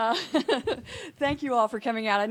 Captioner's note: laughing